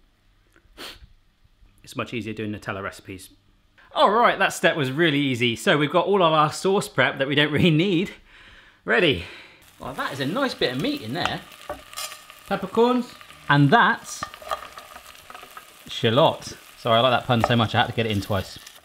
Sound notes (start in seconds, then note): 0.7 sniffles